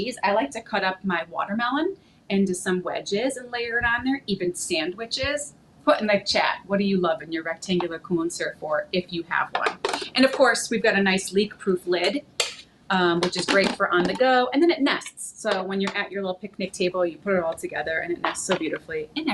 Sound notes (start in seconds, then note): none